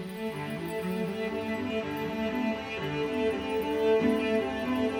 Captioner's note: fairy sparkle sounds play